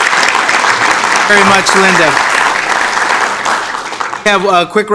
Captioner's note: applause